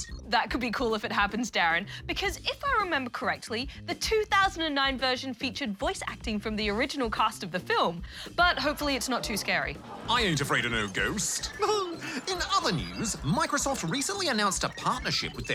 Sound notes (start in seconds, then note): 11.5 laughs